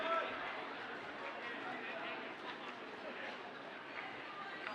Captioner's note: audience chattering